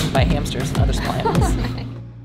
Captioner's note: laughs